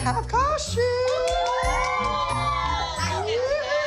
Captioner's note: cheering and applause